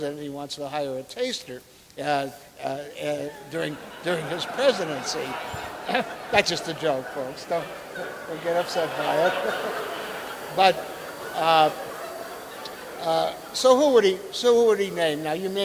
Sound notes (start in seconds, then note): 4.7 audience laughing